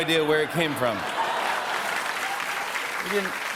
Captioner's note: laughter and applause